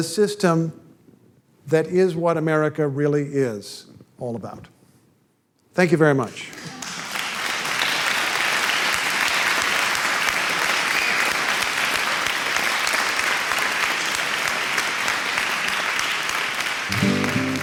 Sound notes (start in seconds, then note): 12.8 applause